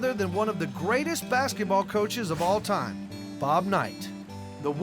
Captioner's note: none